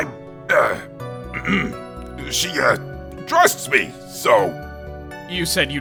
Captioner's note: ahem